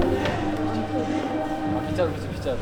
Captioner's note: sweep sweep